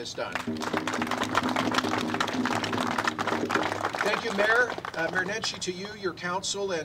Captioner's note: applause